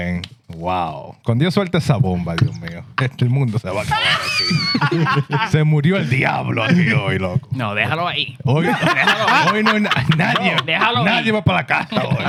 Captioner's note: laughing; speaking Foreign Language; laughing; speaking Foreign Language